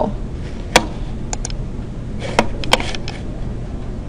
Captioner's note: clicking